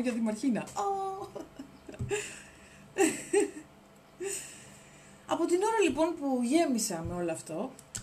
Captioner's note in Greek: γέλια